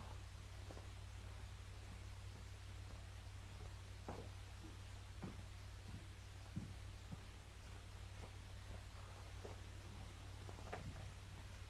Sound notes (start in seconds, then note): none